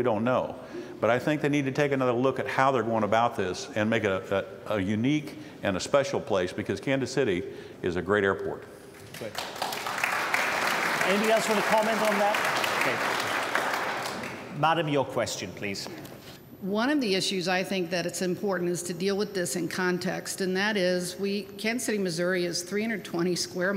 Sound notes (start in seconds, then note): 15.4 applause